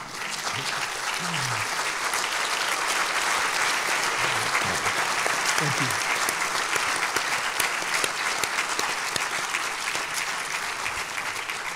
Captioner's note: applause